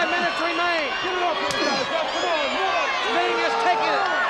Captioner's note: chop striking